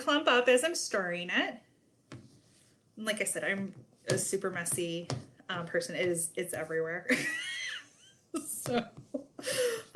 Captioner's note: chuckles